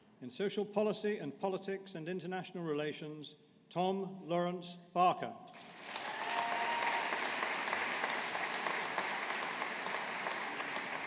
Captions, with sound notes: In Social Policy and Politics and International Relations, Tom Laurence Barker. (AUDIENCE APPLAUDING)